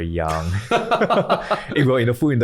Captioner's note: laughing